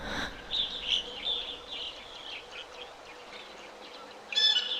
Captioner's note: birds chirping